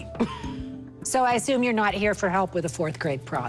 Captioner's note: chuckles